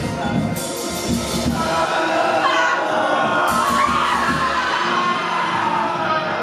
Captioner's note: moaning, screaming